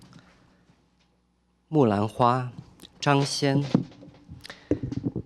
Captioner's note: speaking chinese